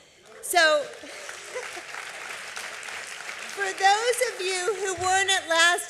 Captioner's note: applause